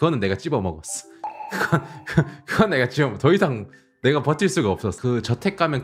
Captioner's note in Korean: 하하!